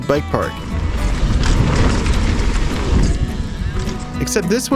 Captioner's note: bike scraping